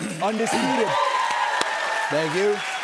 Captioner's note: cheers and applause